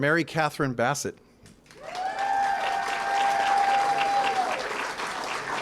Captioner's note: applause